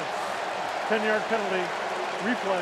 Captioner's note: cheering